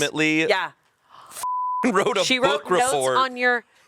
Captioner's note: beep